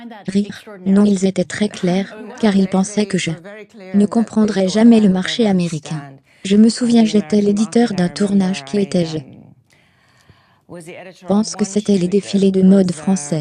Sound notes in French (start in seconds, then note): 1.7 rires